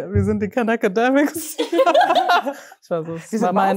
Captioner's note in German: Gelächter